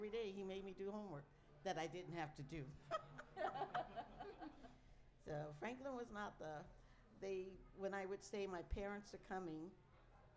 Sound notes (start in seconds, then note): 2.8 laughter